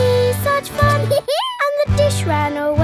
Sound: dog laughs

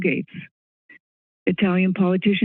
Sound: silence

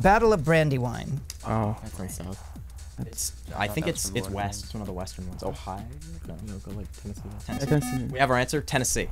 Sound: wispering

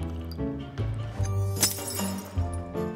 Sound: crash

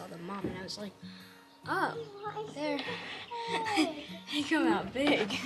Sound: laughs

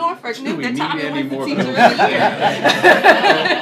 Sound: laughter

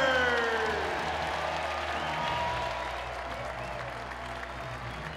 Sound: applause and cheering

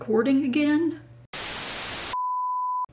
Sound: static; beep tone

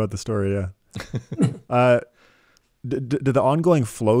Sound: laughing

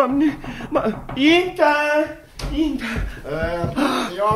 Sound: knocks on the door

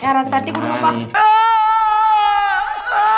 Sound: man sreams

